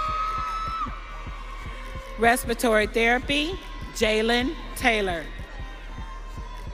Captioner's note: audience cheering